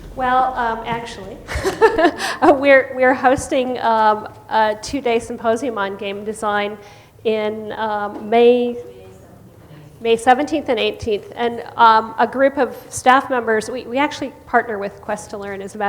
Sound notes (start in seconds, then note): 1.4 laughs; 8.0 voiceover